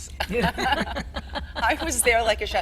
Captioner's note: all laughing